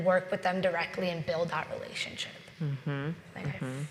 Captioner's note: speaks faintly